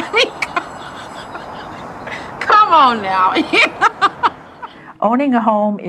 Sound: laughs

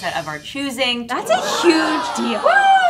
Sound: audience cheering

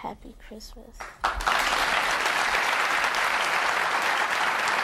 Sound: audience applauding

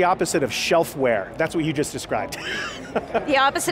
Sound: laughs

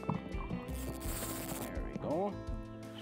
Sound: fishing rod reeling

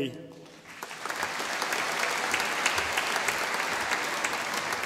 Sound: audience applauding

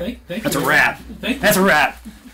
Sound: laughs

